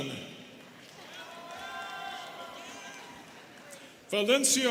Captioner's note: students cheering